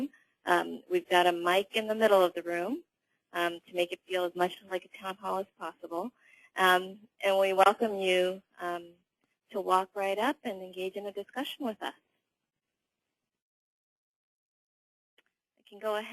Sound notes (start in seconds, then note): 12.4 pause